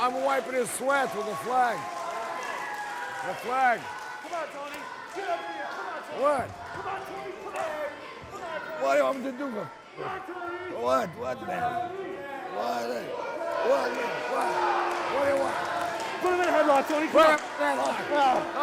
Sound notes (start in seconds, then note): 15.5 crowd